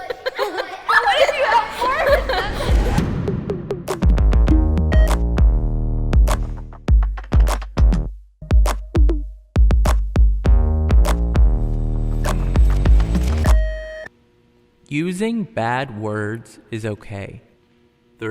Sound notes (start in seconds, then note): 0.0 kids laughing; 1.8 upbeat music; 13.4 beep